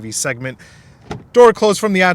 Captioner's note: door opening